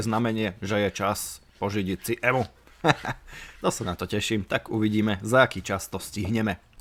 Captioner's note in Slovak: smiech